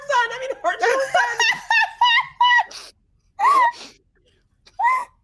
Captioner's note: person laughing